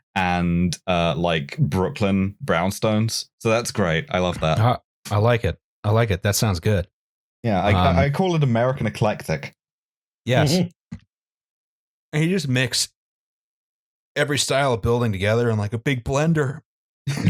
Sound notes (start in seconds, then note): 10.5 laughs